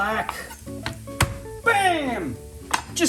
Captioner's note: light crunching